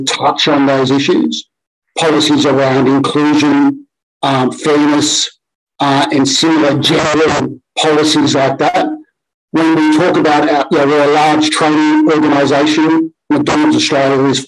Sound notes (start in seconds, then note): 5.8 audio distorted